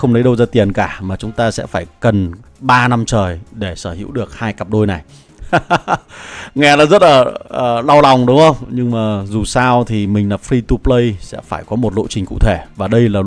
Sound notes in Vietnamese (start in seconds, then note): 5.4 tiếng cười